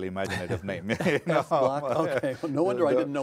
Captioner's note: laughing